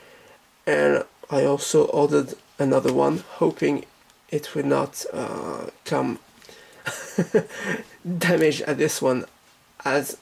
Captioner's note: laughs